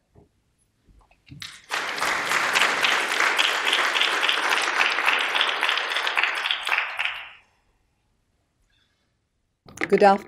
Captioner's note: applause